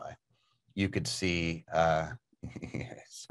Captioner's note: chuckles